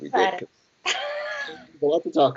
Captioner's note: laughter